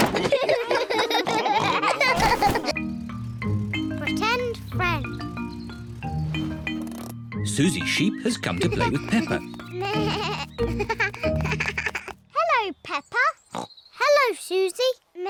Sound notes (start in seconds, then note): 0.0 clock cuckoos; 0.0 all laugh; 9.8 bleating